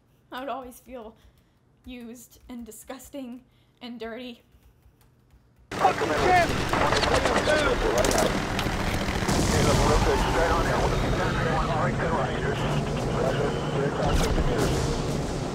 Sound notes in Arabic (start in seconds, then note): 5.7 إطلاق نار; 6.2 انفجار قنابل; 9.9 الدردشة اللاسلكية العسكرية